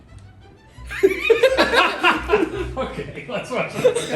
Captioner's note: men laughing; laughing